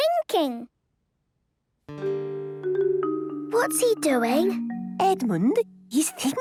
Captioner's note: whispering